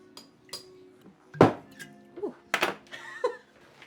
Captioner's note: cork pops; Margaret laughs